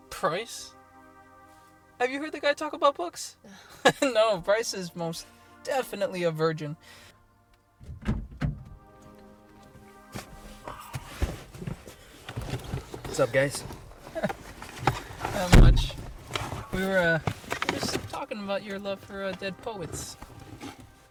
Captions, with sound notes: Price? Have you heard the guy talk about books? [laughs] No, Price is most definitely a virgin. [car door opens] What's up guys? Not much. We were, we were just talking about your love for dead poets.